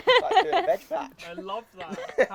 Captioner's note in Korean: 웃음